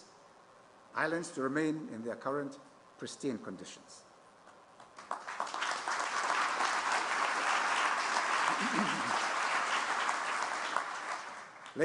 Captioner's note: applause